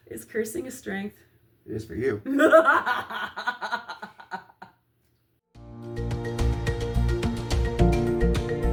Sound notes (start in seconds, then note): 3.2 cackle of truth